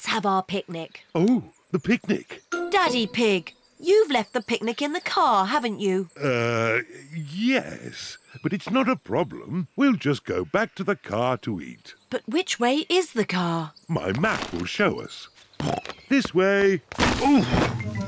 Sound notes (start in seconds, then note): 15.6 snorts